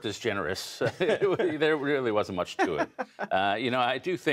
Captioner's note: laughter